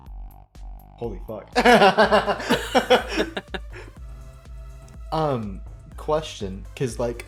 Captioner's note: laughs